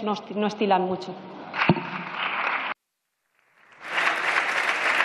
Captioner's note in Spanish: Aplausos